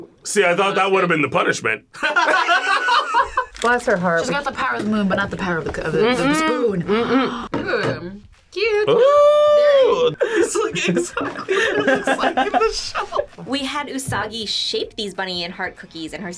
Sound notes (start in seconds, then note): 2.0 both laugh